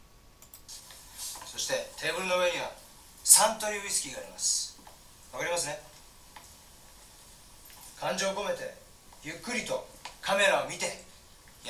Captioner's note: talking Japanese